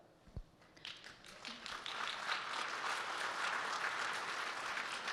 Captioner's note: audience clapping